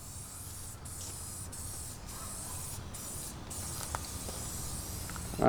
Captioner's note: spray can